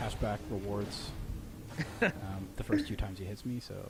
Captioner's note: laughing